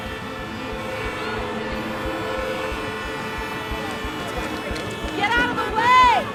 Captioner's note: horns honking